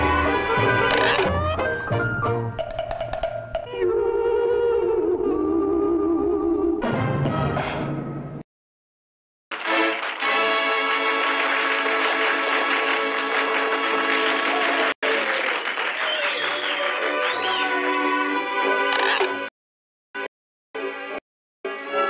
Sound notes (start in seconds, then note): 9.5 audience cheering